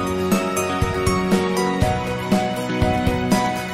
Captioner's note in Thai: none